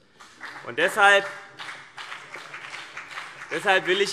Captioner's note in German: Beifall CDU und BÜNDNIS 90/DIE GRÜNEN